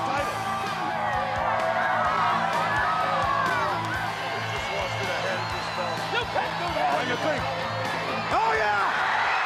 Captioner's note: crowd chatter